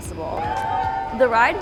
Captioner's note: guests cheering